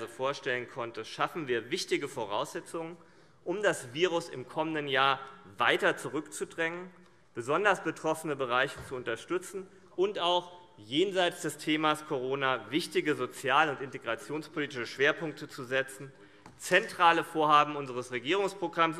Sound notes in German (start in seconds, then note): none